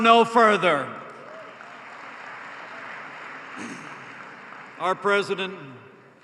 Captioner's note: applause